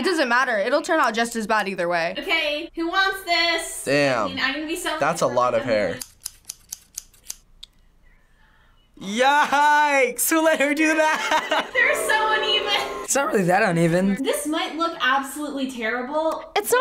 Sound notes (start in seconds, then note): 5.9 scissors clicking